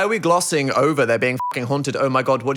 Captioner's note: beeping